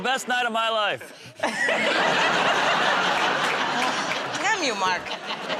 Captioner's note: laughter